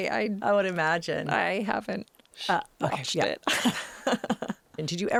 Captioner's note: laughing